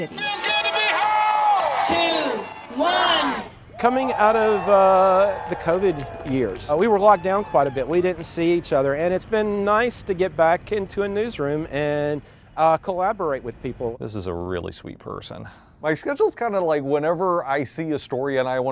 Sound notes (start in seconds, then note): 1.7 crowd cheering